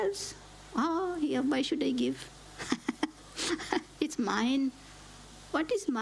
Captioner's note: laughs